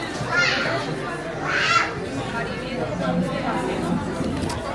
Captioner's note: bustling guest chatter